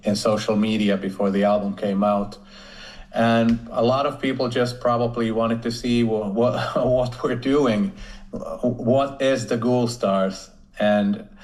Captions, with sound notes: social media before the album came out. And a lot of people just probably wanted to see [chuckles] what we're doing, what is The Ghoulstars, and